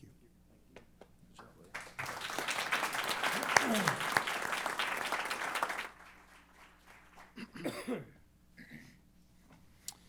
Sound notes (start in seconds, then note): 1.6 applause